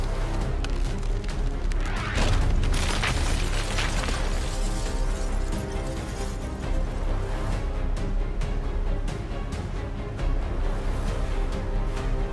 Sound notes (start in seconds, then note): 3.3 ice breaking; 7.7 dramatic music